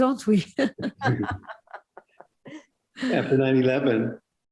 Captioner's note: laughter